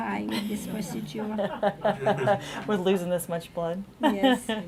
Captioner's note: laughing